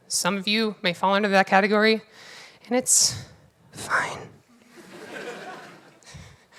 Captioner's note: whispers